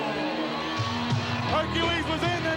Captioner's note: applause